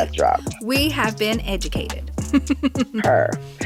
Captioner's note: laughs